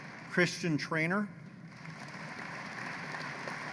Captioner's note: applause